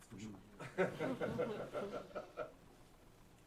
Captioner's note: laughter